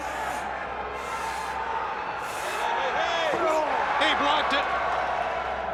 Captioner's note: crowd chatter